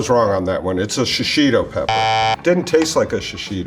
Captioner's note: buzzer buzzes